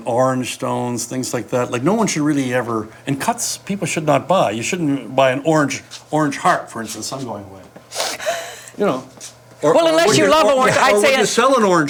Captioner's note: laughs